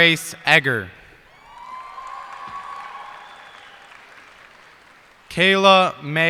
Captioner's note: cheers and applause